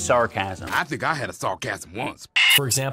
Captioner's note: screeech